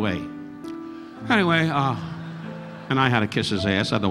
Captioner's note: audience laughing